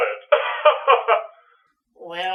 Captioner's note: laughs